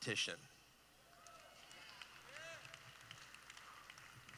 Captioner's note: applause